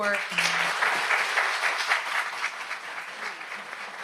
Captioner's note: audience applauds